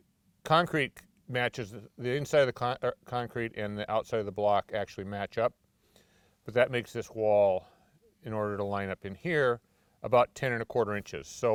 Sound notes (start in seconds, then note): none